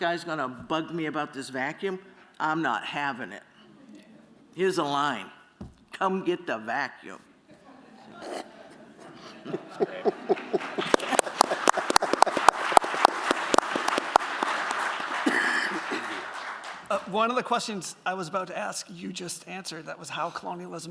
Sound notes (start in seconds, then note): 7.4 laughter; 11.1 applause